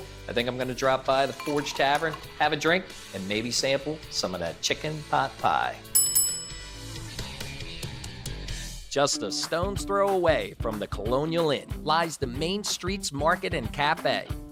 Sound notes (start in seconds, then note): 5.9 bell dinging